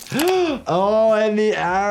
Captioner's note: Petunia screams; doctor gasps